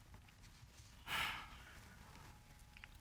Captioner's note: sighs